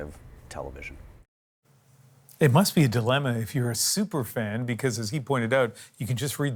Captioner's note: none